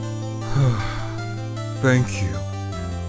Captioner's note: sigh